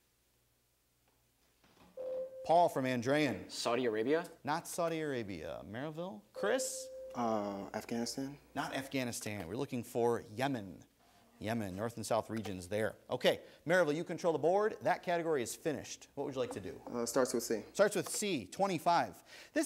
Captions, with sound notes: (ding) Paul from Andrean. >> Saudi Arabia? >> Not Saudi Arabia. Merrillville, Chris? >> Afghanistan? >> Not Afghanistan, we're looking for Yemen. Yemen, north and south regions there. Okay, Merrillville, you control the board, that category is finished, what would you like to do? >> Starts with C. >> Starts with C, 25.